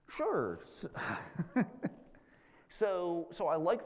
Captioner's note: laughs